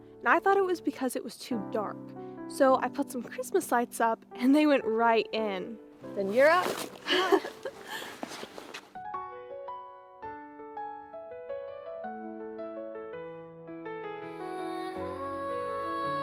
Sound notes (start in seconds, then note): 7.0 laughing; 7.0 laughs